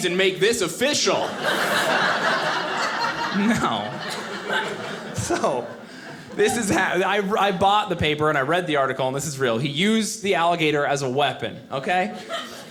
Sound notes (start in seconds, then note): 1.1 audience laughing